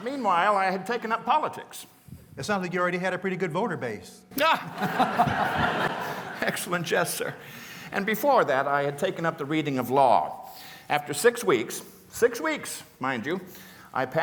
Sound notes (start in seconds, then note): 4.4 laughter